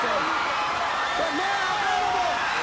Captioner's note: crowd cheering